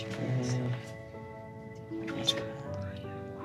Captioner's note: murmur